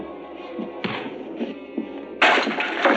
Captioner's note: whack